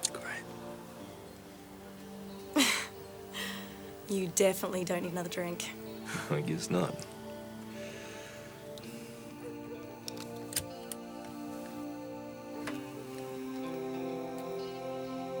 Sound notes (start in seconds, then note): 2.5 Jodie laughs; 6.0 laughs; 9.8 soft instrumental music; 9.9 seatbelt clicks